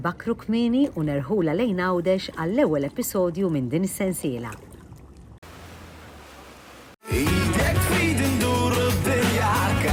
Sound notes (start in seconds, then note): 5.4 waves crashing; 7.0 theme song